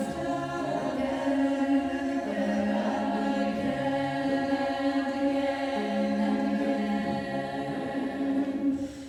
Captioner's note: offset, echoing